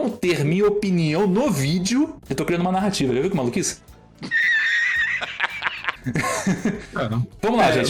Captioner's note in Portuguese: risadas